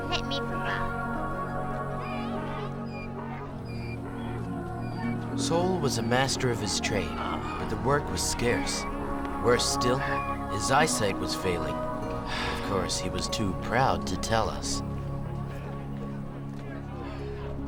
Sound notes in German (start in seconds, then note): 2.4 Esel jammert